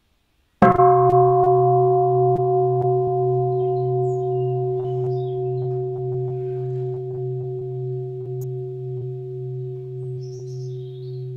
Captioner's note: bell